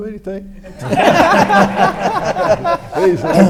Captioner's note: audience laughs